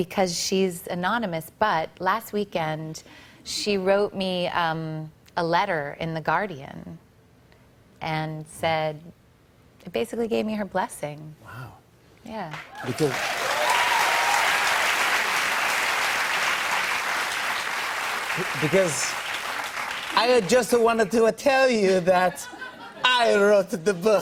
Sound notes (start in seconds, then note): 12.7 cheers and applause; 17.3 Italian accent; 24.0 laughter